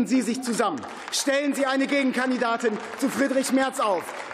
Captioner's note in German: Beifall